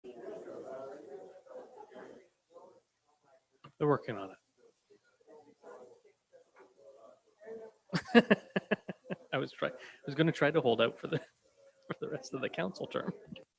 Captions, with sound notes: (group chattering) - They're working on it. (chuckles) I was trying, I was gonna try to hold out for the rest of the council term.